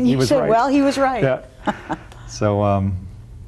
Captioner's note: laughing